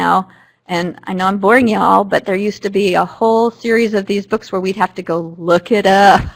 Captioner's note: laughter